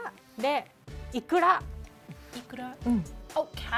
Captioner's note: speaking Japanese